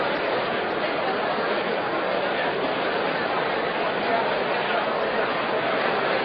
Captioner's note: crowd noise